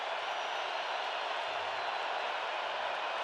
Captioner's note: crowd cheering